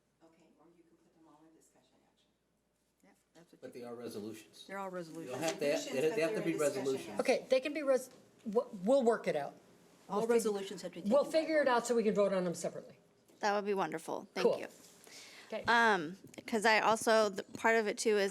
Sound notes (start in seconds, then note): 3.1 overlapping chattering